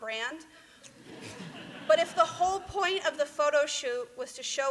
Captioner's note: laughter